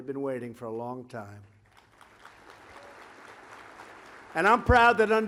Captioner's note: applause